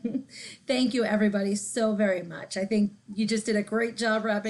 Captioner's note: laughs